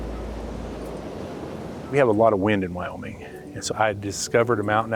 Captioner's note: wind whooshing